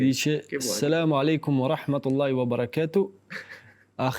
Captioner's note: in Arabic